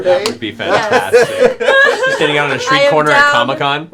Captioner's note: laughter